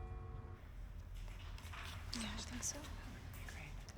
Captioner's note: church bell